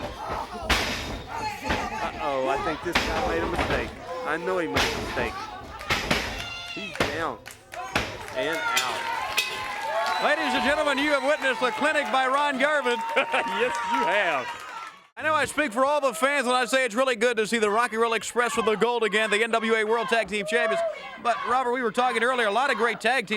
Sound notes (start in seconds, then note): 9.4 bell rings